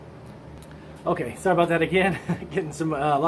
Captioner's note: chuckles